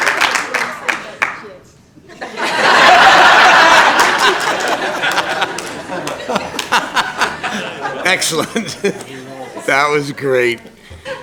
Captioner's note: applause